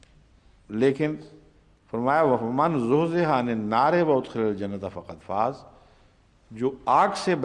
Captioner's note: Arabic